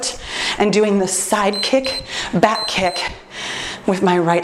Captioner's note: timer beeps